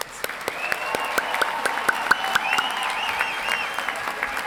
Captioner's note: applause and cheering